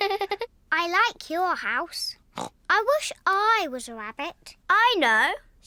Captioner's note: giggles; snorts